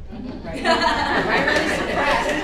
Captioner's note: participants laughing